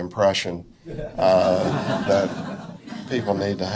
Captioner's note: audience laughs